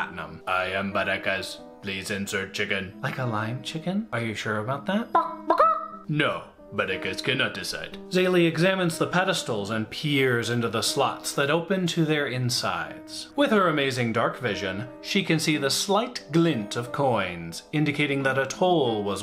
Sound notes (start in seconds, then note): 5.2 chicken noise